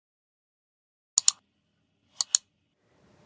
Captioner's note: clicking